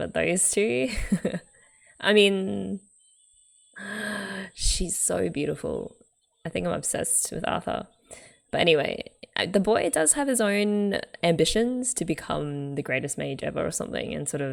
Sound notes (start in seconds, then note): 0.8 laughs; 3.8 gasps